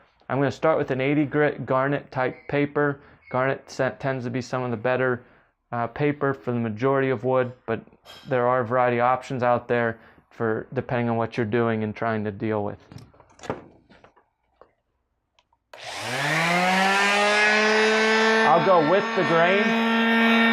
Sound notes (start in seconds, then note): 15.7 sander buzzes loudly